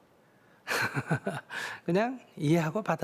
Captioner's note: laughter